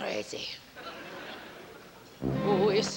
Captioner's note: laughter